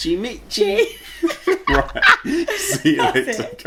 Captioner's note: laughing